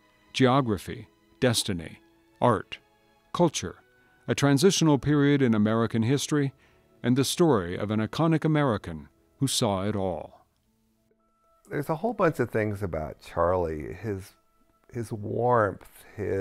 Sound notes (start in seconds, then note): 11.8 voiceover